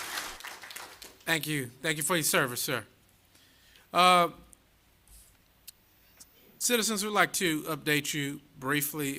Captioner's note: applause